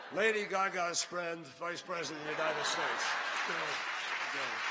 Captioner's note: laughter; applause